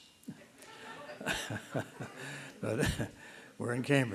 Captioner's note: laughter